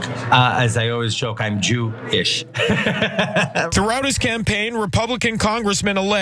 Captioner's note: laugh